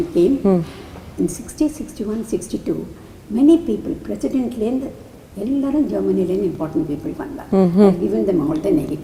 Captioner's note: in Tamil